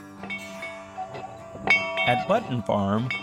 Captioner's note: bell ringing